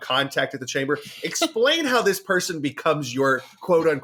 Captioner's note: laughs